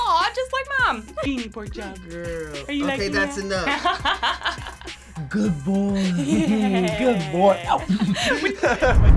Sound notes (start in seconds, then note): 6.0 laughs